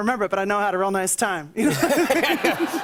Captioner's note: laughter